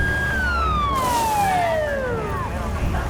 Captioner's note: tires screech; police radio chatter